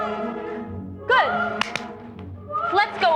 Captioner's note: two claps